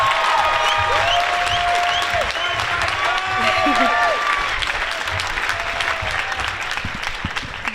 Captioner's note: applause